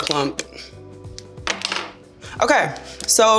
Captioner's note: tube clattering